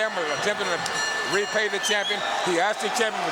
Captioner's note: bell ringing